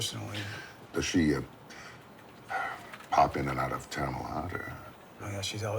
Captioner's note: sighs